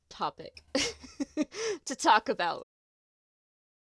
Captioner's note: delighted laugh